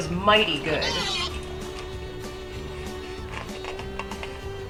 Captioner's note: pig squeals